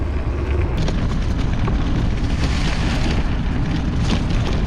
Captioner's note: bike rumbling